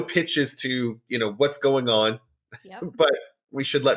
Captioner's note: laughs